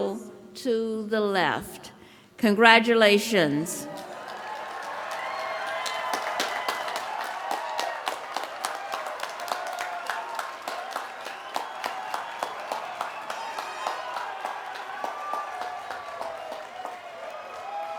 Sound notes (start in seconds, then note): 9.1 cheering